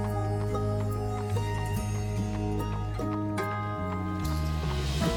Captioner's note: horse hooves clomping